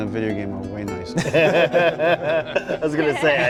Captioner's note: all laughing